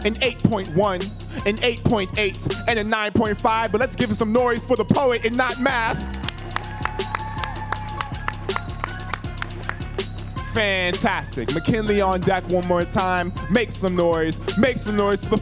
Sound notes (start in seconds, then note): 6.2 audience applauding